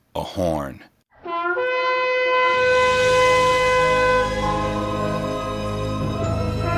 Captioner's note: horn blaring; slow, intense music